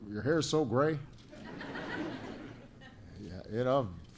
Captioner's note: laughter